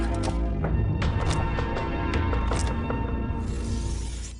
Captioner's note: dramatic music; shutter clicking; blades rubbing together